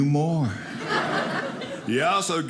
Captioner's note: audience laughing